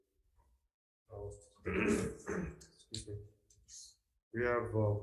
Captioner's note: clears throat